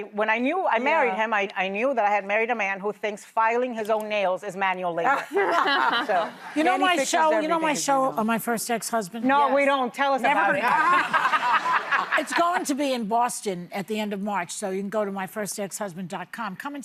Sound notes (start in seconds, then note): 5.1 laughter; 10.4 laughter